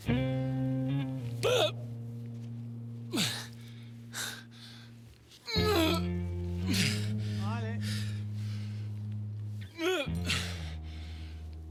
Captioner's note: hard breathing